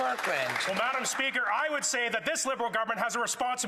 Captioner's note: some Applause